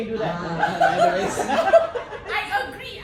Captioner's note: laughter